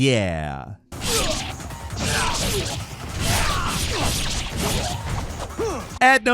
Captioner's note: attacks whooshing; character grunting